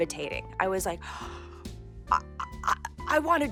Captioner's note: gasping